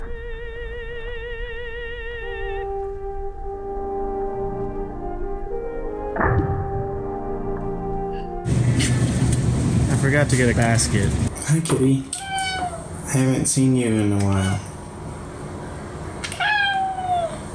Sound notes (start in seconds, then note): 6.1 low slap; 8.5 laughs